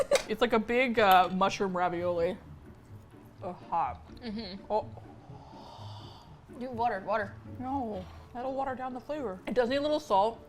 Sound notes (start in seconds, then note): 5.1 breathing in